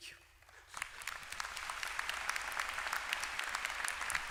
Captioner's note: applause